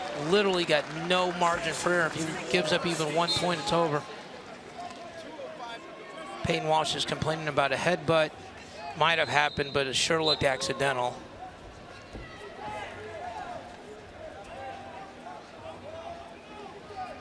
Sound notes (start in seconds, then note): 12.0 crowd cheering